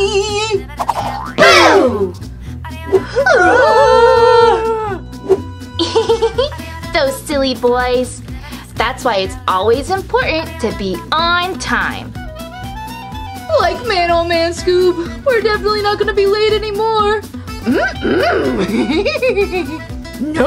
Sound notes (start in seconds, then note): 3.2 screaming; 5.7 laughing; 17.7 Scooby grunts